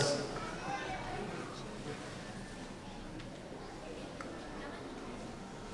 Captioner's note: audience chattering begins